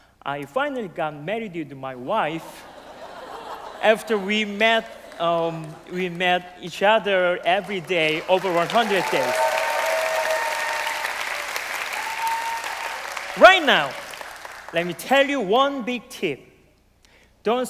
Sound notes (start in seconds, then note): 2.4 laugh; 9.3 cheers and applause